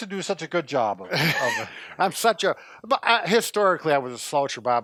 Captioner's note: laughing